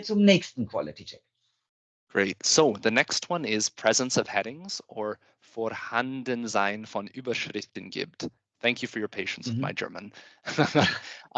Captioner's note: laughs